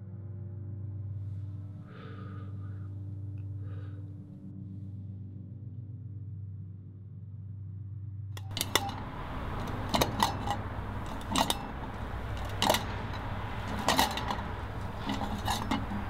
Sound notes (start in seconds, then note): 3.5 blows Puff Of Air; 8.4 metal Clanging